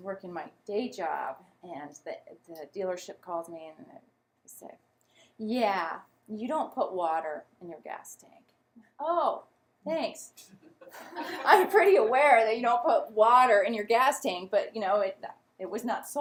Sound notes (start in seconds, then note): 10.7 laughter